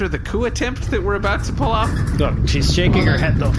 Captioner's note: Bargie starts rattling